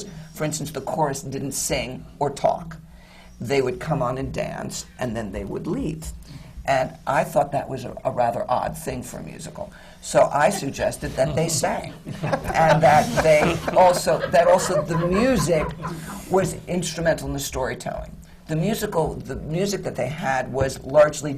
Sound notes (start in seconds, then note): 11.1 laughter